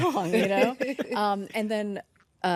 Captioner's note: hosts laugh